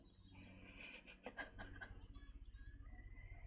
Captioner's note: laughs